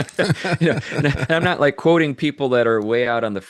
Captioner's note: laughing